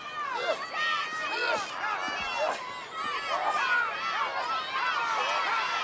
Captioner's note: audience shouting